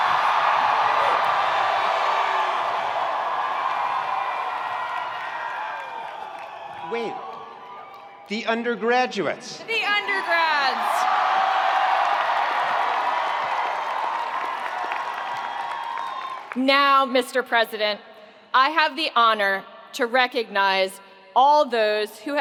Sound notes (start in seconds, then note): 0.0 attendees applauding; 0.0 attendees cheering; 9.6 attendees cheering; 9.7 attendees applauding